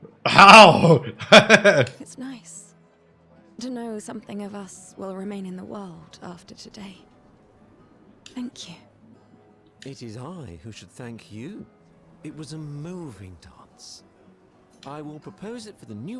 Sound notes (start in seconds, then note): 1.9 laughs